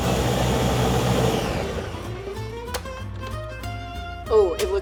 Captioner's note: blender whirring